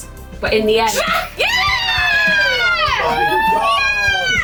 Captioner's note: cheering